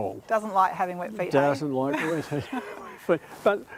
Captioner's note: both laugh